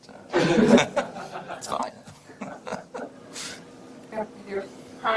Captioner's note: audience laughs